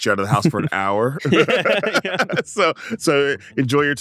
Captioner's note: laughs